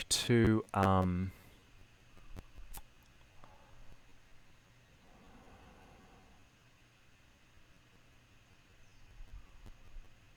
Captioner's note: silence